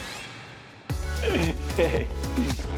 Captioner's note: laughs